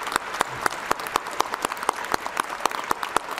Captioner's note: applause